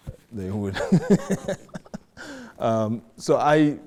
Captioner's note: laughing